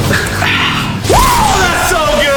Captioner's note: exhales